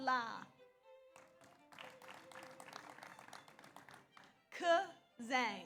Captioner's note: audience applauds